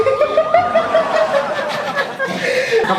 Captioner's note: laugh